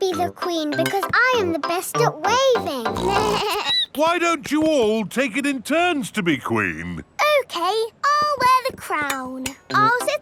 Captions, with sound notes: I should be the queen because I am the best at waving! (SNORTS) (BLEATS) Why don't you all take it in turns to be queen? Okay, I'll wear the crown.